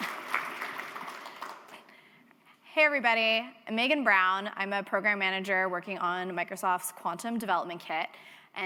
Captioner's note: applause